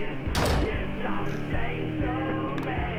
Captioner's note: door Closes